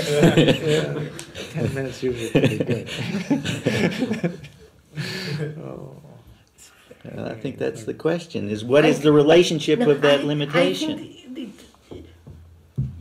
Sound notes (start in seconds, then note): 0.0 laughs; 2.0 laughter